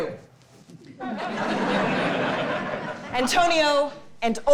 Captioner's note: audience laughing